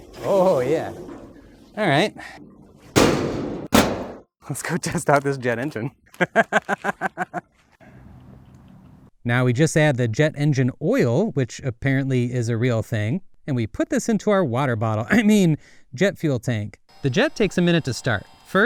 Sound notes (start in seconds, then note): 2.9 doors slams; 6.1 laughs